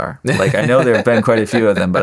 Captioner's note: laughing